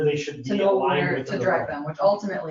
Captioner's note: overlapping chatter